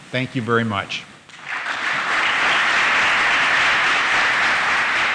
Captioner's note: applause